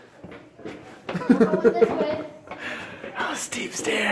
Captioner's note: laughter